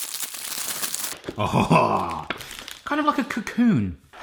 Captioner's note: chuckles